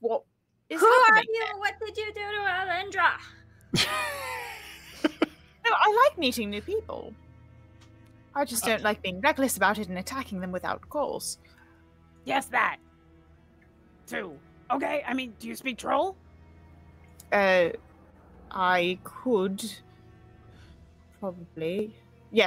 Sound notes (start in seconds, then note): 3.7 laughs